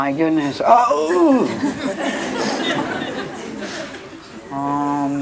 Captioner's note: audience laughs